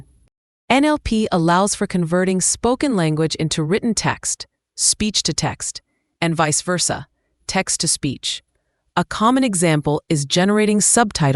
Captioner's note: text-to-speech